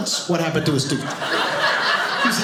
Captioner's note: audience laughing